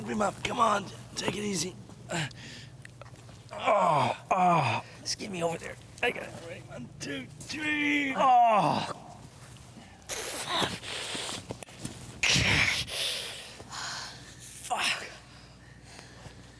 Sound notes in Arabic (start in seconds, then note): 8.0 مالكولم يتأوه بصوت عالٍ; 10.1 جين تلهث; 12.2 مالكولم يشتكي; 13.8 جين تزفر بعمق